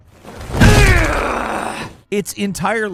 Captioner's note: game character growling